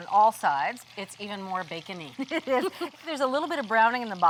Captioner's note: both laugh